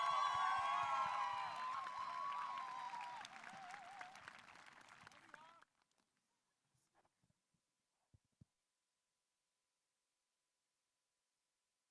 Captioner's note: applause